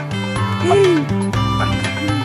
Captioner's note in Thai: เสียงหัวเราะ